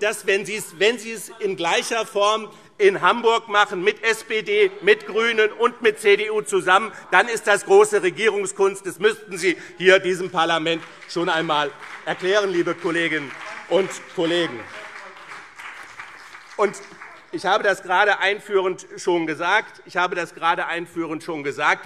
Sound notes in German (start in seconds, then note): 12.4 Beifall BÜNDNIS 90/DIE GRÜNEN und CDU - Zurufe SPD und DIE LINKE